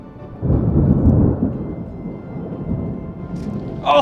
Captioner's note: thunder